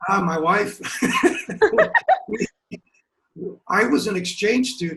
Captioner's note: laughter